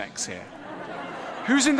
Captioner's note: ضحك